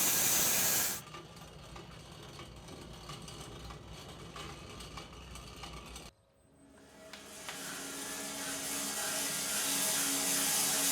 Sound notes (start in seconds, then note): 1.6 sawmill grinding back; 7.2 sawmill sawing